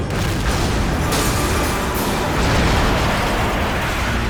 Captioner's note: explosion booms